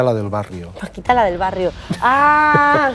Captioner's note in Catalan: ríe